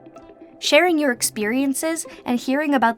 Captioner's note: voice-over